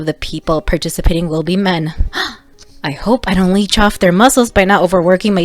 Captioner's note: gasp